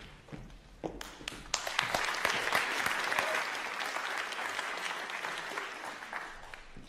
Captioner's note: applause